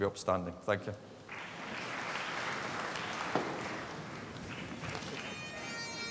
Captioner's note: applause; ceremonial bagpipe music